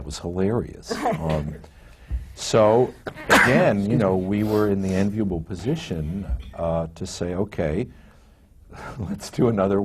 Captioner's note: laughs